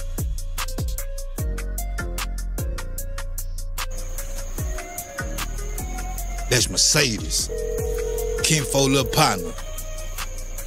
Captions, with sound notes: [outdoor night sounds] That’s Mercedes. [phone ringing] Kinfolk’s little partner.